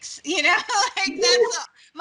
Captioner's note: laughing